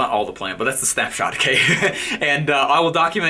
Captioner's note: laughing